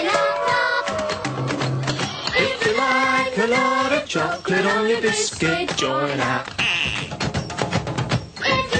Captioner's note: quack